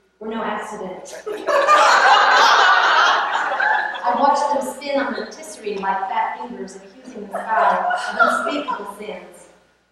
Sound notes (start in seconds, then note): 1.2 laughter; 7.3 laugher